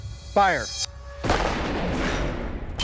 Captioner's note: gunshot